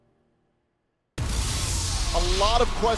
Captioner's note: crowd cheering